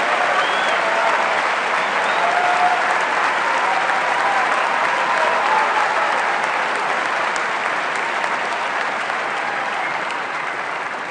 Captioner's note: cheers and applause